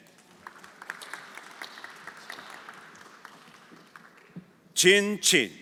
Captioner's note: everyone applauding